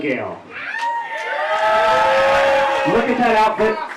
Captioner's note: audience cheering